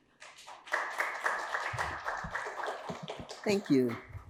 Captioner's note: audience applauding